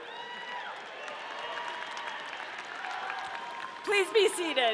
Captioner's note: audience cheering